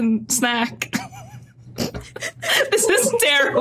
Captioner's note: snickers